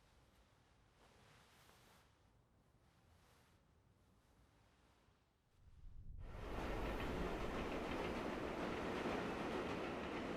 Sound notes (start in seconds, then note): 6.2 train clacks